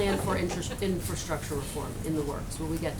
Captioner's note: laughter